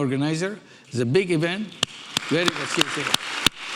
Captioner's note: audience applauding